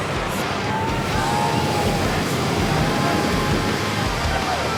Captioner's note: waves crashing